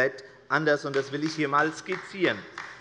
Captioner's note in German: Demonstrativer Beifall bei der LINKEN